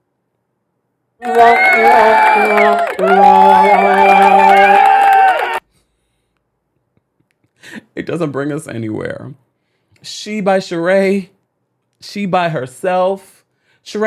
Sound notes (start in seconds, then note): 1.2 crowd applauds; 6.4 laughs